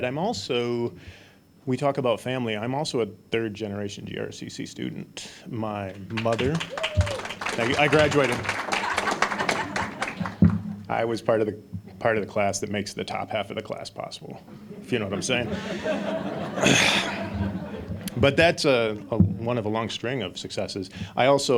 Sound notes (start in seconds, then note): 5.9 applause; 9.2 audience laughing; 16.1 audience laughing